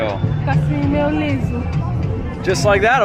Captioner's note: speaks in foreign language